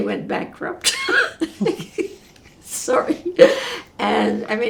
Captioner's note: laughing